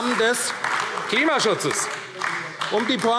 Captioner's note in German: Beifall AfD